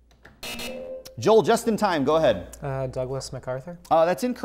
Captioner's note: buzzer